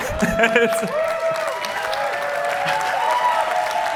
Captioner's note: cheering